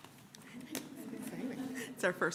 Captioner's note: laughter